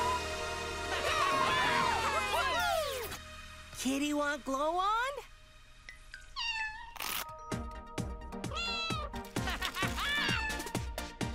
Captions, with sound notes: (all cheering) - Kitty want glow wand? (meowing) (laughing)